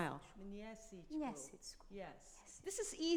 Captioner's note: both speaking in a foreign language